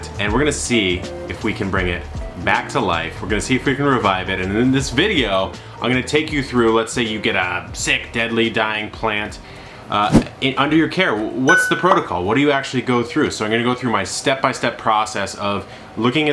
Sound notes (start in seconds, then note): 10.7 logo whooshing; 11.5 bell dings